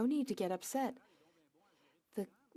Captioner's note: speaking French